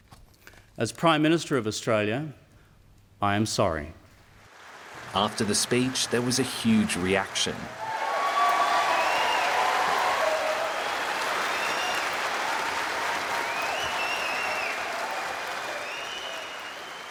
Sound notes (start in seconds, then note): 7.6 cheering and applause